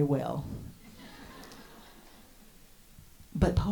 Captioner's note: audience laughs